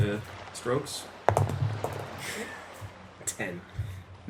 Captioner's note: dice rolls